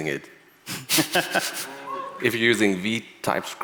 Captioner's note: laughing